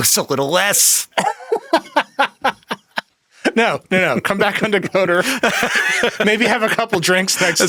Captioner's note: laughs